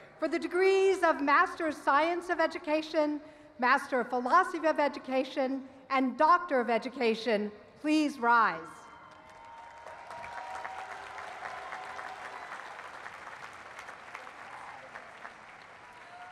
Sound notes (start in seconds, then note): 8.9 applause